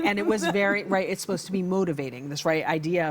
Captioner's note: laughs